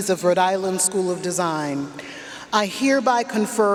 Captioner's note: none